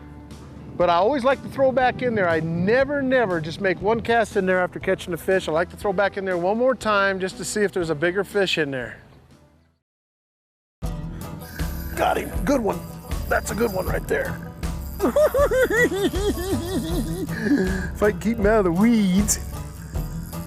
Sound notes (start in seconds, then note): 14.9 giggling